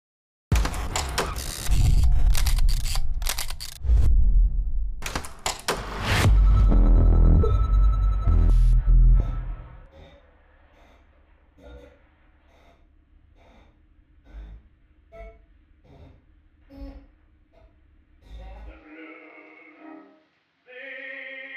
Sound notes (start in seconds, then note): 1.3 film equipment clicking and whirring; 5.4 logo whooshing; 6.2 soft eerie music; 9.1 person breathing heavily; 18.0 muffled 1920's music